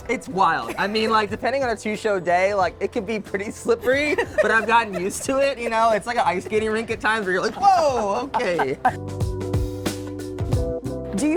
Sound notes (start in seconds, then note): 3.8 laughing; 8.0 laughing; 9.2 calm music